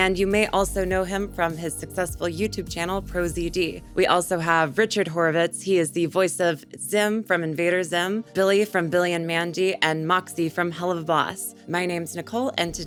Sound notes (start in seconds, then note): none